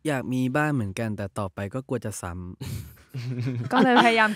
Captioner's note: laugh